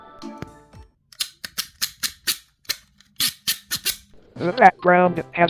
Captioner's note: ¨beautiful¨ plastic clacks